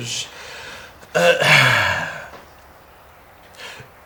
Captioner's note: sigh